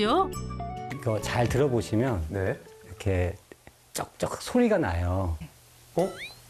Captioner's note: sound of wood creaking as it warps from temperature and humidity